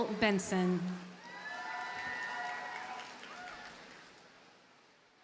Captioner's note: audience cheers and applauds